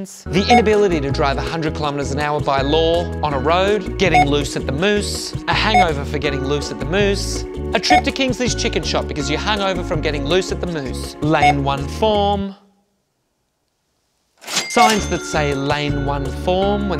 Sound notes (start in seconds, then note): 14.4 register ringing